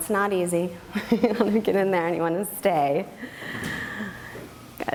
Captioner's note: laughs